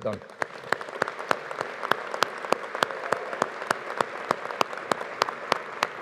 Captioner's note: audience applauding; audience cheering